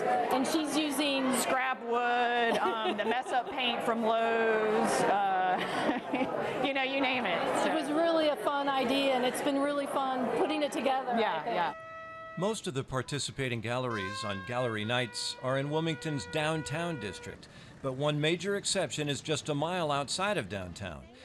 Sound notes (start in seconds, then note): 2.3 laughs; 5.4 laughs